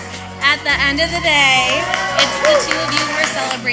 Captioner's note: crowd cheering